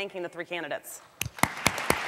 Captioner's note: applause